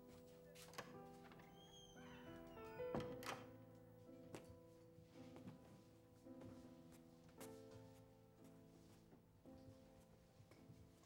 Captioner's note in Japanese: ドアの開閉音